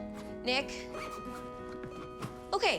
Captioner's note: zipping